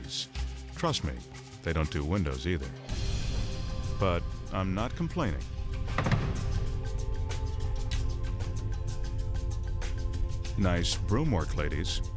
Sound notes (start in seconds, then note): 5.6 broomsticks thudding; 6.7 light rhythmic music